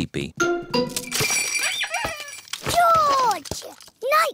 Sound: bells ring and toys squeak

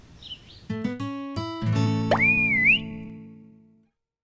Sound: sound of whistle as part of logo

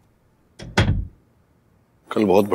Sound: door closes

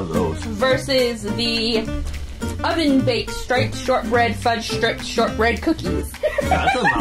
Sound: laughs

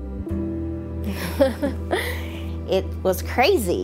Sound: giggling

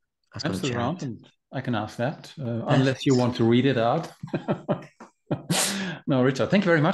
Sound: laughing

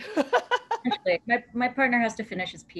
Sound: laughter

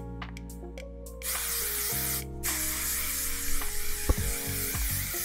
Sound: hairspray spraying

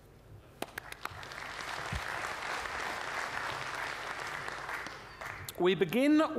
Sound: applause

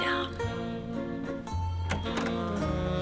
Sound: door opens, closes

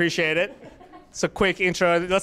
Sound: laughter

